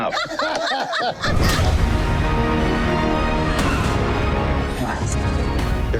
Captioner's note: group laughing; intense music